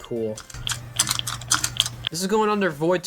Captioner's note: sound of aiming down sights repeatedly